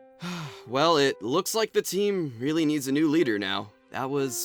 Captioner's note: sighs